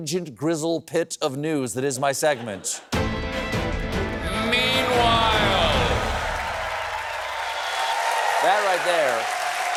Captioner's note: cheers and applause